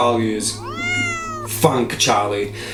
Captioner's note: Charlie meows quietly in the background